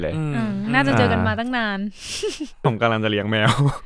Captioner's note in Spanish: Risas